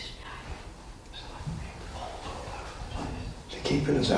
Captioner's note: whispering faintly